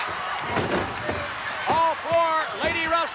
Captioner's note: bodies thudding